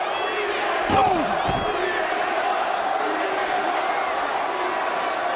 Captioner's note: CM Punk grunts